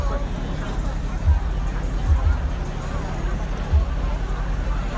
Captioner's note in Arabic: الحشد الثرثرة